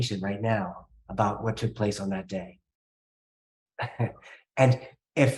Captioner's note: chuckling